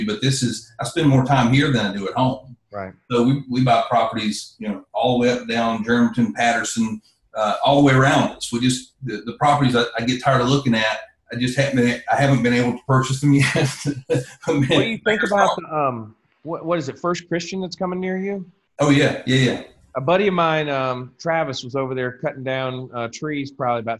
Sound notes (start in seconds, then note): 13.0 laughs